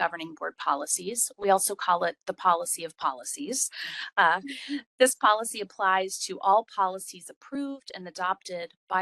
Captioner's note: laugh